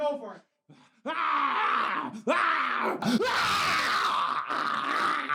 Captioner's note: growling